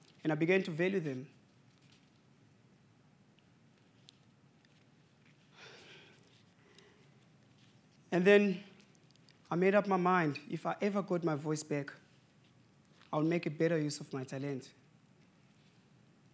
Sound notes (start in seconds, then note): 5.4 sigh